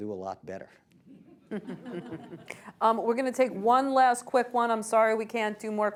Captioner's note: laughter